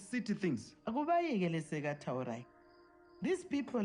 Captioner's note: in Ndebele